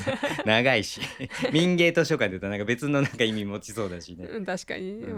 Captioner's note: laughs